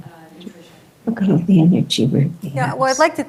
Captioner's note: indistinct audience chattering